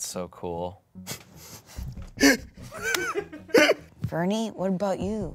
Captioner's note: laughs